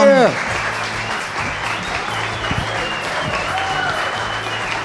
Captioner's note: cheering